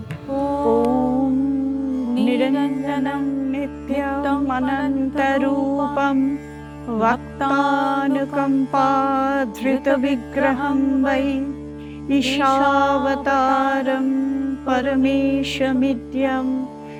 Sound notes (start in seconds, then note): 0.0 chanting